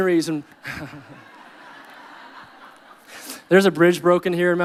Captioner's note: audience laughing